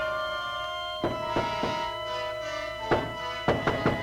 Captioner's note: knocking